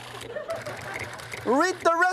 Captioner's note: audience laughs